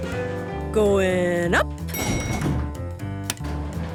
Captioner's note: elevator pings